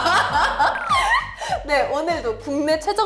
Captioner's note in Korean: 꺄르륵